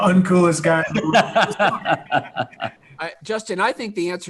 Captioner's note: laughing